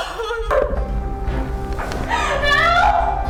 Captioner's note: dog barking